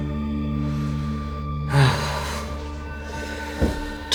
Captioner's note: sigh